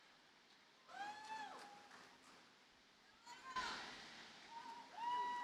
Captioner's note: audience cheering